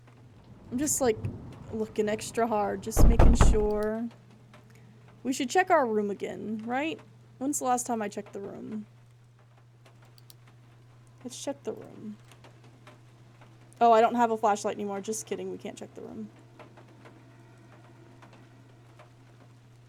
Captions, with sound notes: I'm just, like, looking extra hard [Three Loud Bangs] just making sure. We should check our room again, right? When's the last time I checked the room? Let's check the room. Oh, I don't have a flashlight anymore. Just kidding, we can't check the room.